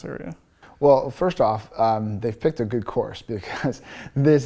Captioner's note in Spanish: risas